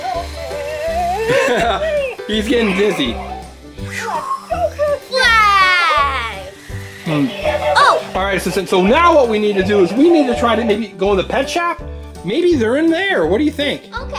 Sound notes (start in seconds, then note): 1.0 Mr. Engineer chuckling